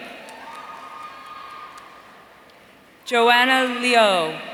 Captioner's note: audience cheering